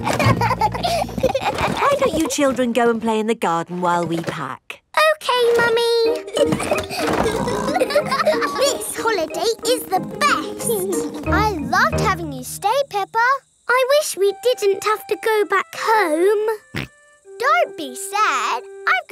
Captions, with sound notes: (CHILDREN LAUGHING) Why don't you children go and play in the garden while we pack? Okay, Mummy. (LAUGHING AND SNORTING) This holiday is the best! I loved having you stay, Peppa! I wish we didn't have to go back home. (SNORTS) Don't be sad.